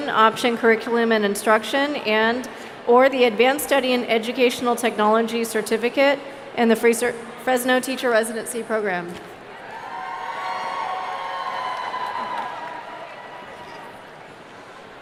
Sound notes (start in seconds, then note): 9.6 audience cheering